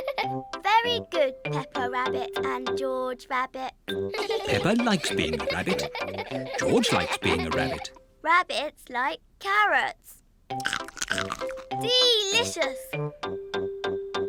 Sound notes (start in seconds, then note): 0.2 giggling; 4.1 all giggle; 10.6 crunches